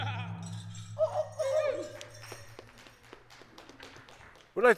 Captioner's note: people whoop and clap